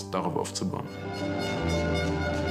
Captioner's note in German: Stadionhupen